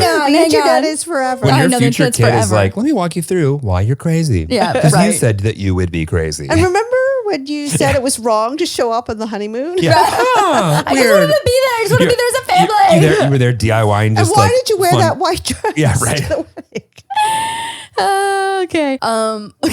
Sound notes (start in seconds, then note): 9.8 all laughing; 17.3 laughing